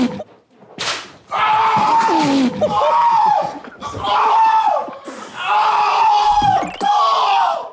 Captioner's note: group snickering; howling; elastic snaps; group snickering; howling